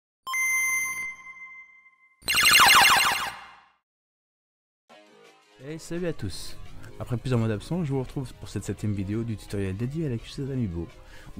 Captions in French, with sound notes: *jingle game boy* Hey, salut à tous. Après plusieurs mois d’absence, j’vous retrouve pour cette septième vidéo du tutoriel dédié à la custo d’amiibo